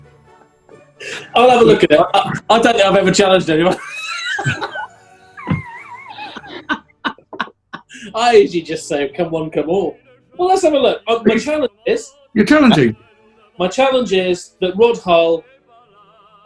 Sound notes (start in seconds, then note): 3.5 laughing